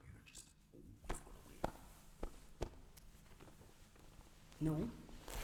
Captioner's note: fabric continues shuffling; fabric rips